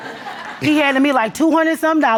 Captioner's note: audience laughs